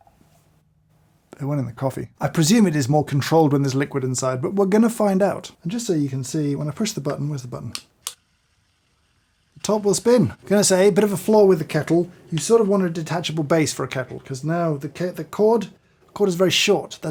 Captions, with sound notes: it went in the coffee. I presume it is more controlled when there's liquid inside, but we're gonna find out. And just so you can see, when I push the button, where's the button? (button clicks) The top will spin. Gonna say, a bit of a flaw with the kettle. You sort of want a detachable base for a kettle, cuz now the cord is very short.